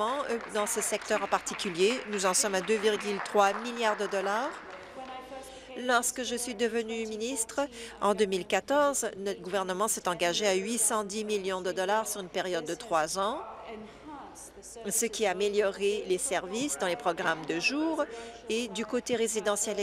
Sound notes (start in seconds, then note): 4.3 applause